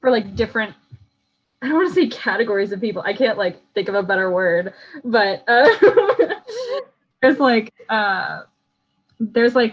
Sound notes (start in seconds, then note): 5.5 laughs